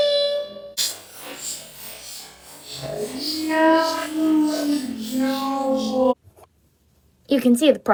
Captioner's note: glitchy audio; more glitchy audio